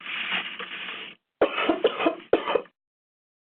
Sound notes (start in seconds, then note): 1.4 coughs